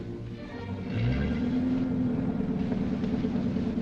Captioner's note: engine revving